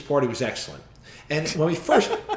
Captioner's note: laughs